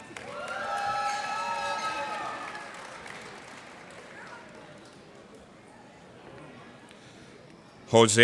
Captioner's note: cheers and applause